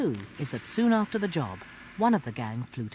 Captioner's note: voiceover